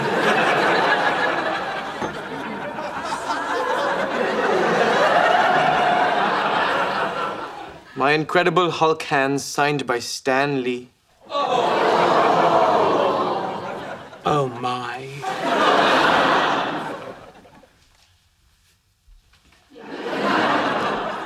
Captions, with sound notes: (audience laughing) - My Incredible Hulk hands signed by Stan Lee. (audience groaning) - Oh, my. (audience laughing)